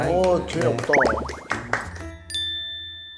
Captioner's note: applause volume drops dramatically